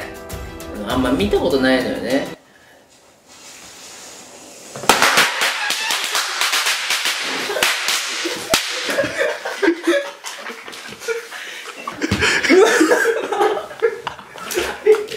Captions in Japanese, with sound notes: あんま見たことないのよね （奇声） （笑い声）